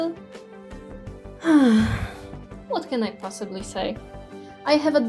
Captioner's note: heavy sigh